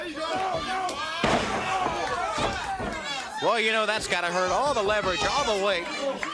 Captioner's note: crowd chatter